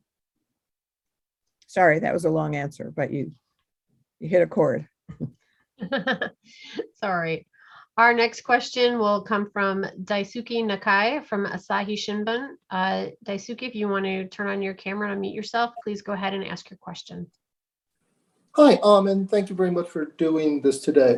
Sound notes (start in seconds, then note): 5.7 laughter